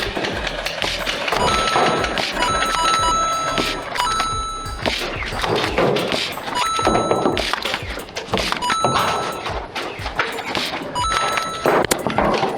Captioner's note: video game dinging noise with battle sounds